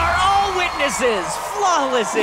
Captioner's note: cheers